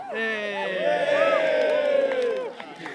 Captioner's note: cheering